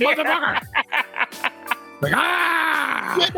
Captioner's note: laughing